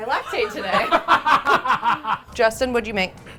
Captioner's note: laugh